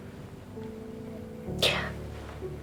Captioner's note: whispering